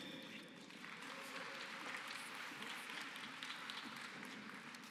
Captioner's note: applause